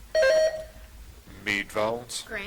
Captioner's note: buzzer chiming